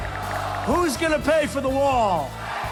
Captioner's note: crowd